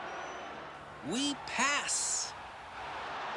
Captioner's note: crowd cheering